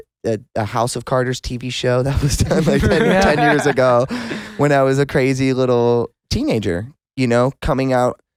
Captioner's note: laughs